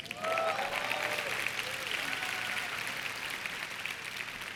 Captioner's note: applause